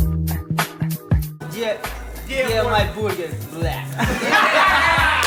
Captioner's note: speaking in Russian